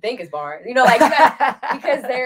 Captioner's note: laughs